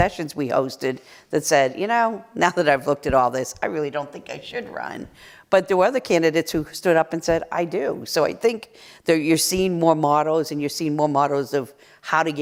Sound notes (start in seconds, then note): none